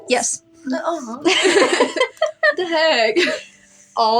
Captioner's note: laugh